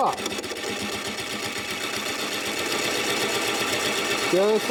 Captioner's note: machine hums